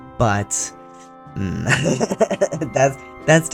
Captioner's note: laughter